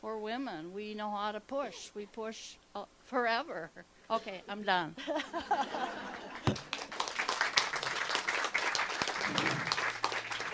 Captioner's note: clapping